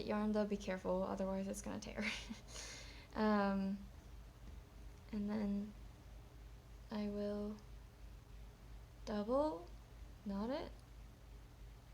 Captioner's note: chuckles